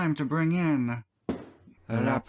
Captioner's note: thunk